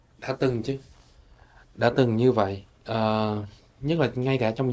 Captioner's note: speaking foreign language